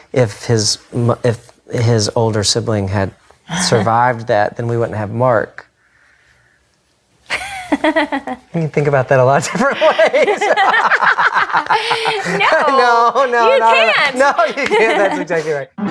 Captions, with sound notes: if his older sibling had survived that then we wouldn't have Mark. (laughs) You can think about that in a lot of different ways. (laughs) - No. - No. - No, no. - You can't! No, you can't actually, you're right.